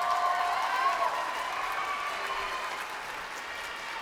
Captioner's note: crowd cheering